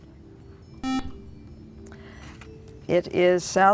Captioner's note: buzzer